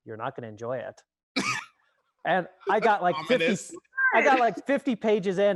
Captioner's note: chuckles